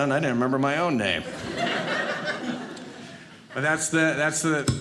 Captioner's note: audience laughing